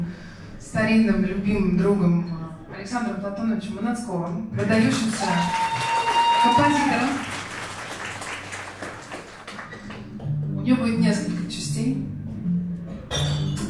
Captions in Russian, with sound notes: старинным, любимым другом Александром Платоновичем Маноцковым, [аплодисменты и ликование зала] выдающимся композитором. У нее будет несколько частей.